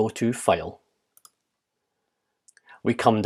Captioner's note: keyboard clicks